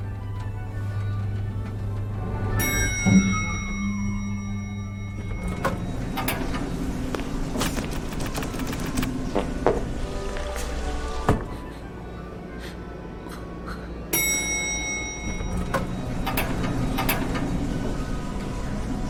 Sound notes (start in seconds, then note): 2.5 elevator dings; 9.3 person farts; 11.5 person sniffing; 13.2 person chuckles; 14.1 elevator dings